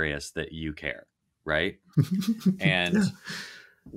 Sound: laughing

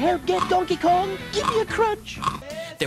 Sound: crunching

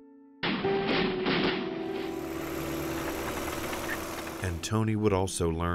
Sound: soft music; gun banging

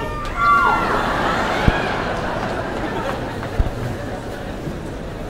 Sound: laughter

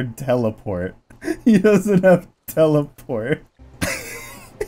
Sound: laughing

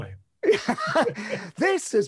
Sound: men laughing

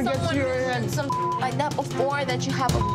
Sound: beep

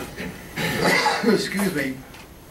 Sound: coughs

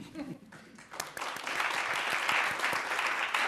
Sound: applause

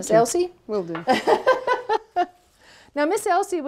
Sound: laughing

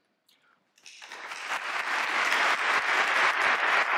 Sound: applause

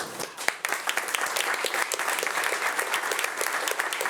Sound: audience applauding

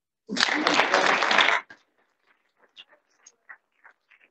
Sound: audience applauding

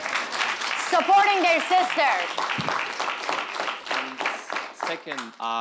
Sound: audience applauding

